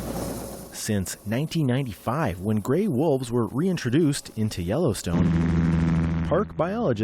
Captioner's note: voice-over